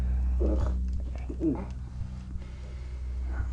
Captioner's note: wolf mumbles